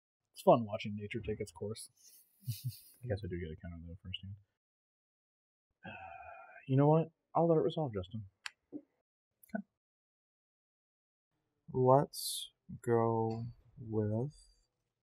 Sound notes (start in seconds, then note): 5.8 sighs